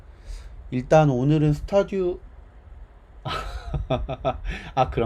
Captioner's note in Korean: 웃음